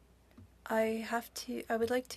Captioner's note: speaking French